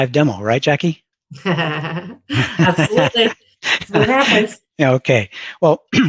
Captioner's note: laughs